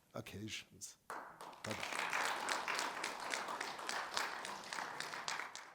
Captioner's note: audience applauds